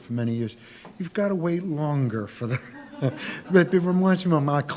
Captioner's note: laughs